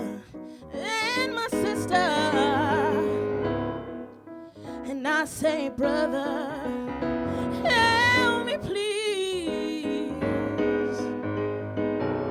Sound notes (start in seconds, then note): none